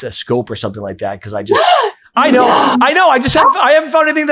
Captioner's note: gasps